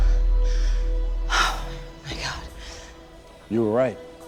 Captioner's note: gasps